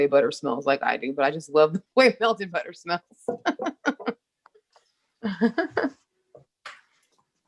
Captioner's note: laughs